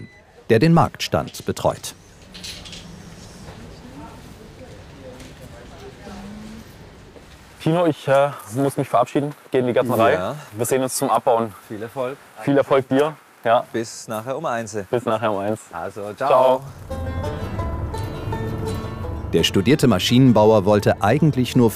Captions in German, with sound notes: der den Marktstand betreut. (Leises Stimmengewirr) Ich muss mich verabschieden, ich geh in die Gärtnerei. Wir sehen uns zum Abbauen. Viel Erfolg dir. Bis nachher um eins. Ciao. - Bis nachher um eins. (Lockere Musik) Der studierte Maschinenbauer wollte eigentlich